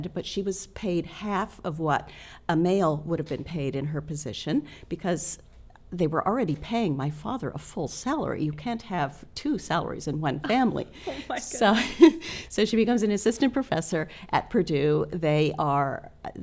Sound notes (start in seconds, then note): 10.5 laughs